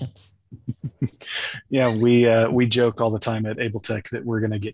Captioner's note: laughs